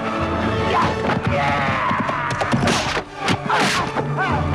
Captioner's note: both grunting